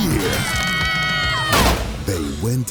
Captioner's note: screaming